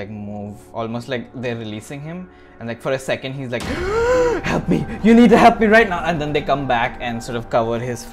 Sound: gasp

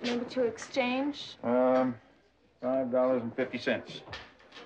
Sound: none

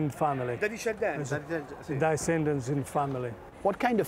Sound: speaking Italian

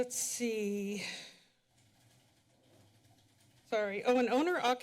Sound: pause

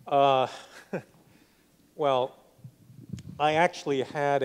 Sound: laughs

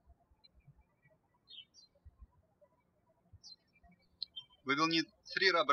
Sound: birds chirping

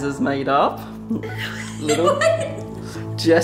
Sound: laughs

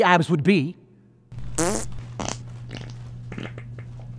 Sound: farts

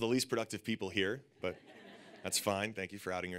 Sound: audience laughing

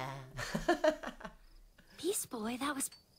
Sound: laughing

